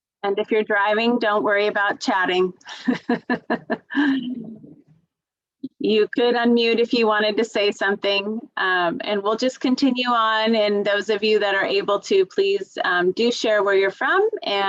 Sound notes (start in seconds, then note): 2.7 laughs